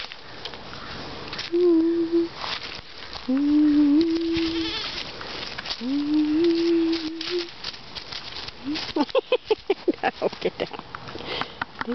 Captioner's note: humming; laughter